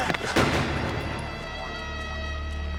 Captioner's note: gunshot